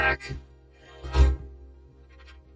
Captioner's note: door creaks